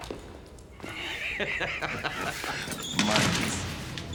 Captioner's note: man laughing